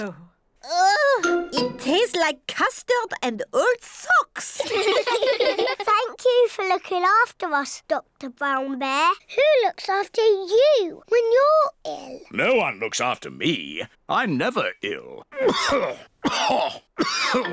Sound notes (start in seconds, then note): 4.6 all laugh; 15.3 coughs